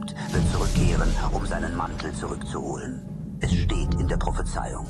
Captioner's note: thunder crack